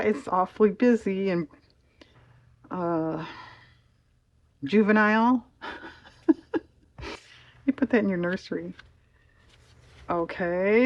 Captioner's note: laughs